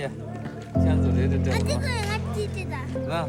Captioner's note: children speak foreign language; speaks foreign language; child speaks foreign language